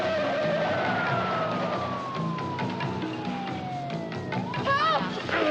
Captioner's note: ambulance siren